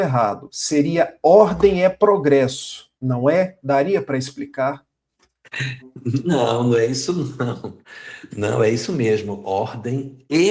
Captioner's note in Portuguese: risadas